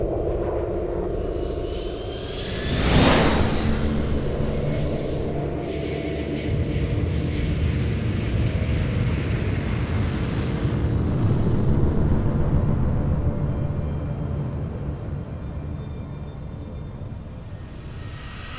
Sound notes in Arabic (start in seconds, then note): 2.4 محرك صوتي عالي السرعة; 9.6 قعقعة محرك بعيد; 13.2 موسيقى مشوقة